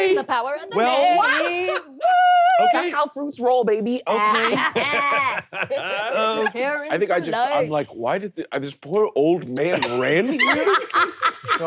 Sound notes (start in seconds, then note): 4.1 laughing; 9.7 laughing